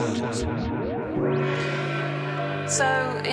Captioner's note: gong struck